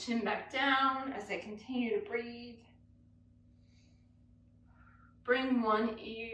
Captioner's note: breathes